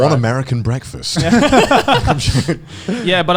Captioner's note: all laughing